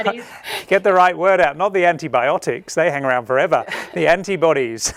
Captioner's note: laughing